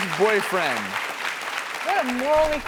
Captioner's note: audience applauds